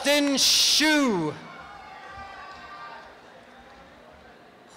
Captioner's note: applause and cheering